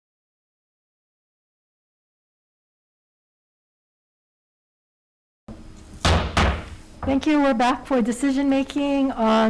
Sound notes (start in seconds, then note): 6.0 hits gavel